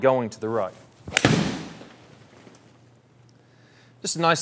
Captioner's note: golf ball hitting